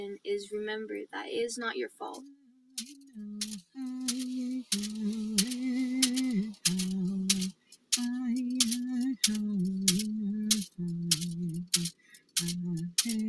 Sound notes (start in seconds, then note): 2.7 rhythmic tapping; 3.4 native American chanting